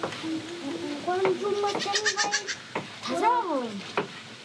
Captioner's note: children chat